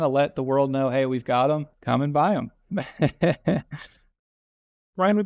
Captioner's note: laughs